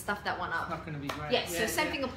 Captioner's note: claps